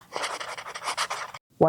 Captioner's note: pen writing on paper